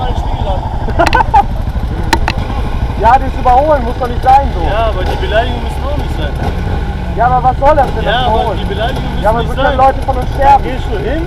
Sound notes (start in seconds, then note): 0.8 laugh